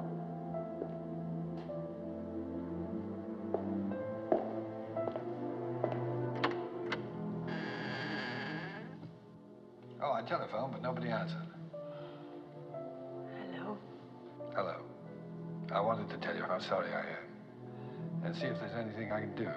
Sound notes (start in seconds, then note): 1.7 footsteps Stop, Continue; 7.4 door Opens, Hinges Creak; 11.5 sighs